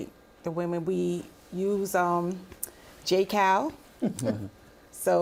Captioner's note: chuckling